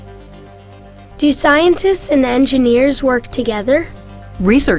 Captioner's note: voiceover